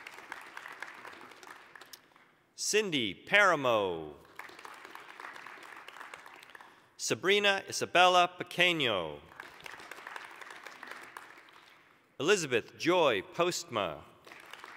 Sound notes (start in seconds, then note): 0.0 applause; 4.0 applause; 9.2 applause